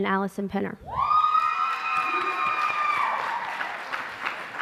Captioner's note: applause